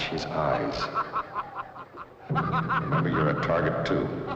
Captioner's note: laughing